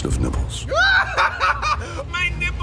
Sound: rocket laughing

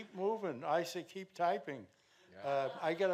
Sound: audience laughing

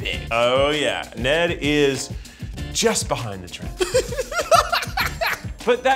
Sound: Zach and Eugene laugh

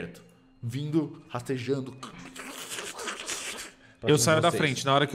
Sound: maggot sound

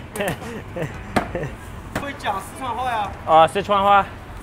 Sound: laughs

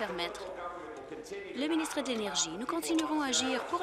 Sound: applause

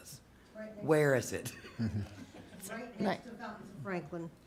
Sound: chuckling

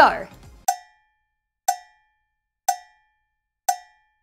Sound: cowbell timer tings

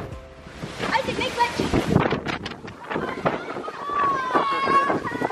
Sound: wind whooshing

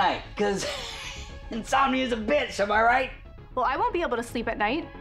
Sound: laughing

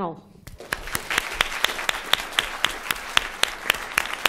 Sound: applause

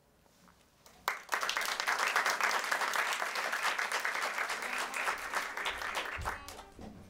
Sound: applause

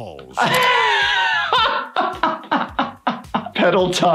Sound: laughing

